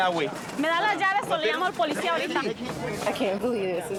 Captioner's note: speaking spanish